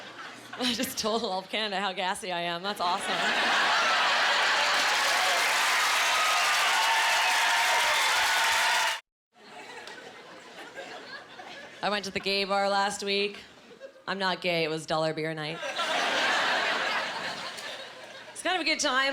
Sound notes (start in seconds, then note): 3.0 cheering; 15.4 laughing